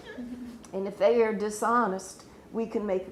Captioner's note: laughs